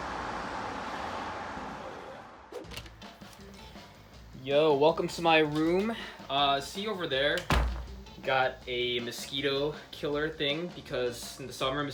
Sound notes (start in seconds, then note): 0.0 cars Driving; 2.6 door Opening; 3.0 energetic music